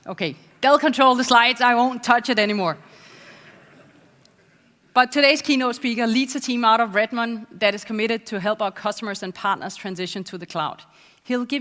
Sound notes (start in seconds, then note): 3.1 laugh